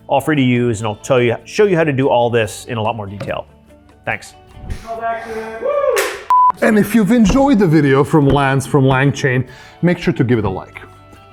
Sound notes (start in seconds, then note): 6.0 clapperboard snaps; 6.3 screen beeps